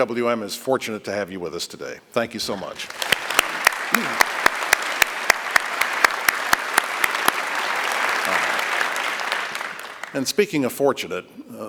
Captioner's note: applause